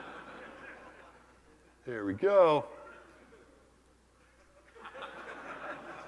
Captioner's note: laugh